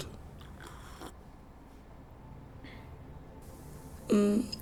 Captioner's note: sighs, instrumental fades in